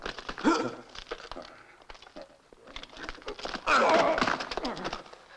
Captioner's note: grunting